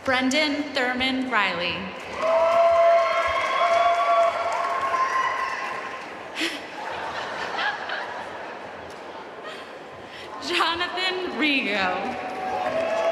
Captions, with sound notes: Brendan Thurman Reilly (audience cheering and applauding) Jonathan Rigaud